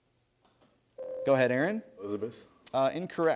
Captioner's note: ding